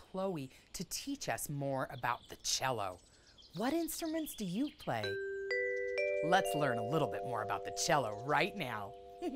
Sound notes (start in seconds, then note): 5.0 lighthearted music; 8.1 laughs